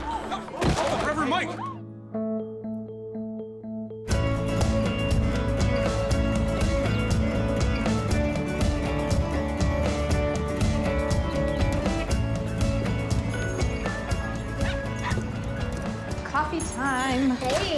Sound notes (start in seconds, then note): 0.6 thud; 14.6 puppy yapping